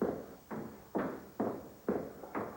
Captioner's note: footsteps